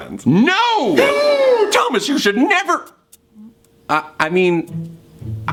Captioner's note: gasps